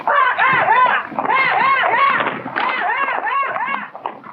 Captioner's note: men shouting